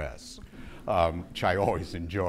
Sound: audience laughing

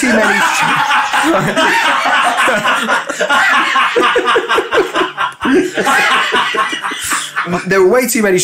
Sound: collective laughter

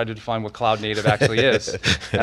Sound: laughs

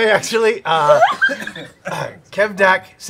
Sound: laughing

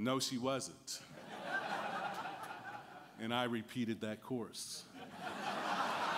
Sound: laughter

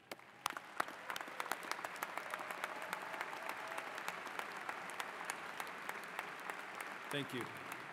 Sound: applause

